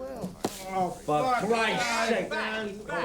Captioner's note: men grumbling, swearing